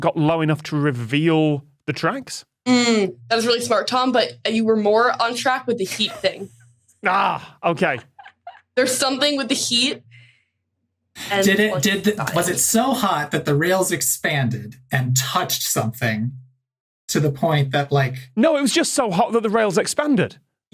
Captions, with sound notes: got low enough to reveal the tracks? That was really smart, Tom, but you were more on track with the heat thing. (wheezes) Agh, okay. There's something with the heat. Was it so hot that the rails expanded, and touched something to the point that— No, it was just so hot that the rails expanded.